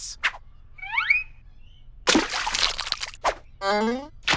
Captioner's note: water splashes, fish flaps